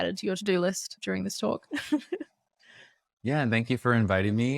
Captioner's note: laughs